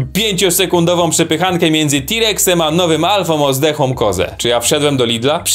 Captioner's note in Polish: none